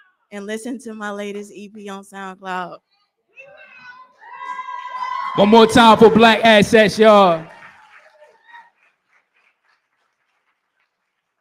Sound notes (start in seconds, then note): 3.8 cheering